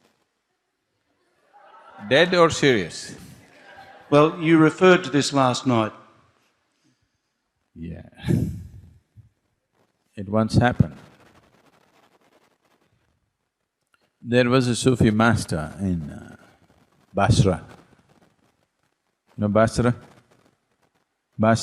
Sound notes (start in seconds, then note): 1.3 laughter